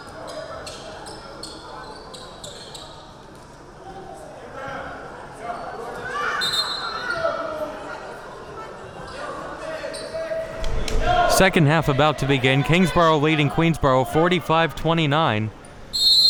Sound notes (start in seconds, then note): 4.9 people murmuring; 15.9 whistle blowing